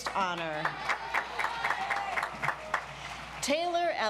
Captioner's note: audience applauds